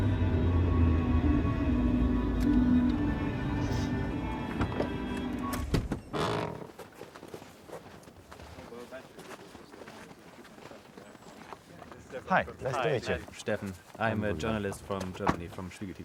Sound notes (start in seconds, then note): 5.1 engine cuts off; 5.1 music stops